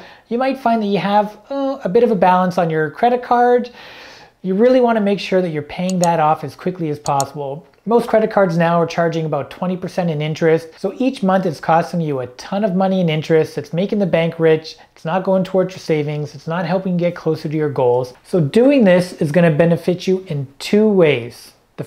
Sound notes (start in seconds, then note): 7.0 mouse clicking